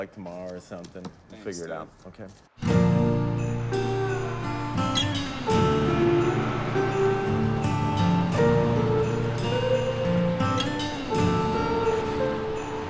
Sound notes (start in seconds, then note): 4.6 slow rock music; 4.6 various traffic sounds